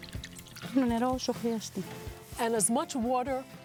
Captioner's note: speaking in greek